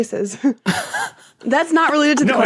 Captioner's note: wheezes